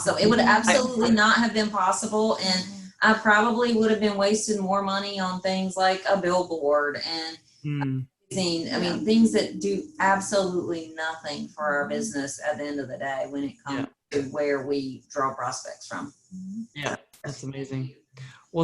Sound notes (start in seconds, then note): 8.7 faintly speaking